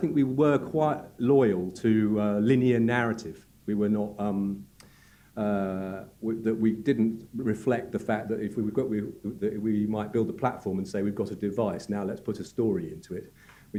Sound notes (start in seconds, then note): none